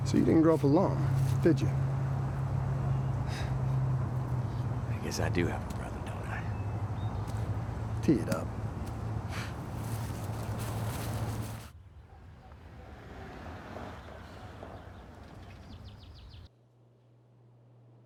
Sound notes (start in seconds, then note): 8.7 golf club thuds; 12.7 car engine roaring